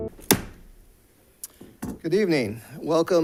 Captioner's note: gavel thuds